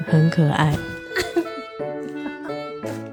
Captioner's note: laughing